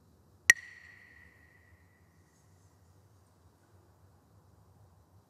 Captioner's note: Mooji clacks the sticks